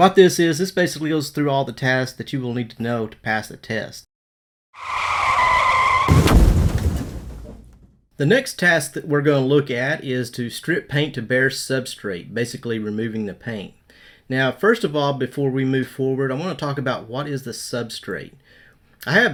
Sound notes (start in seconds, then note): 4.7 tires screeching; 4.8 metal crashing